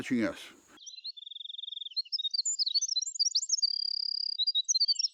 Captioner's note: birds chirping